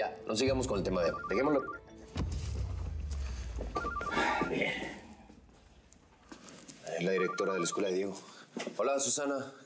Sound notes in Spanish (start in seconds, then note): 3.6 suena el celular